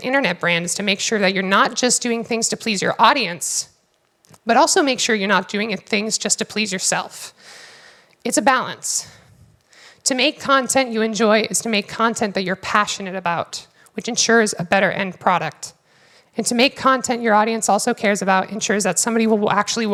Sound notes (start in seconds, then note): none